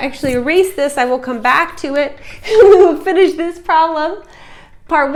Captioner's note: chuckle